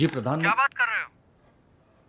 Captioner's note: on phone